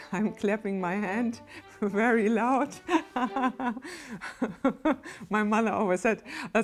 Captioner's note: laughs